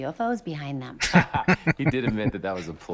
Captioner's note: laughing